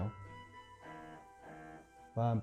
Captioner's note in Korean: 화답의 전화기 진동음